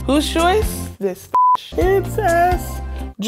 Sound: beep

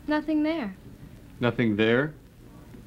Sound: none

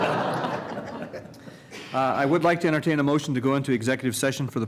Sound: laughter

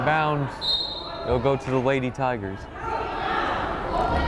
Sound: whistle blows

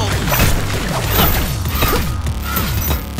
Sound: grunting

